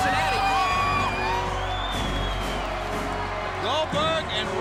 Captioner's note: crowd cheering